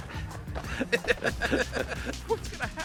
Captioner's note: both laughing